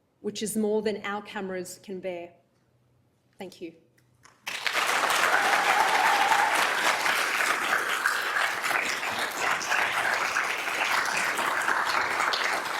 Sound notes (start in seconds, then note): 4.4 crowd applauding